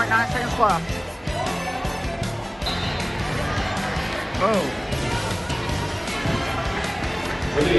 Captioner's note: fans in the audience cheer